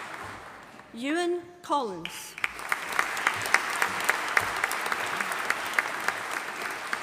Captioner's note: audience applauding